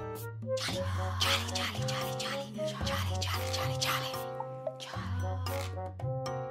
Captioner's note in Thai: กระซิบกระซาบ